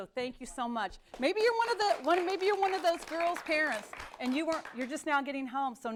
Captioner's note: �applause�